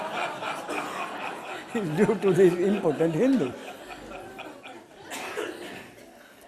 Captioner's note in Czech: smích